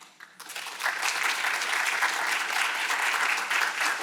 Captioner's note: audience clapping